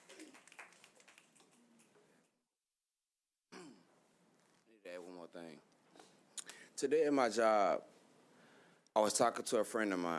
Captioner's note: applause